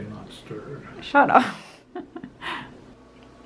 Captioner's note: chuckles